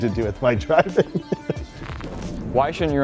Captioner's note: giggles